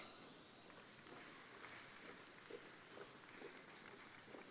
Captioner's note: crowd applauding